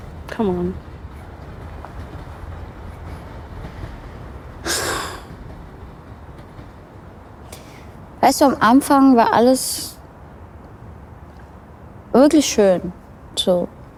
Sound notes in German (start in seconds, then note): 4.6 Seufzen